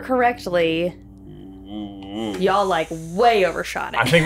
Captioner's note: exclaiming